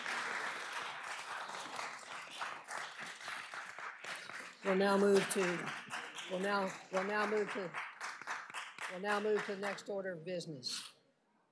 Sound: applause

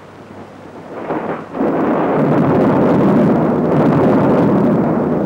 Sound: thunder rumbling

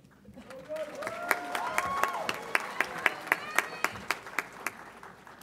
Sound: audience applauds and cheers

